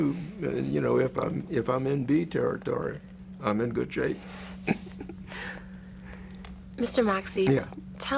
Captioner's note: laughs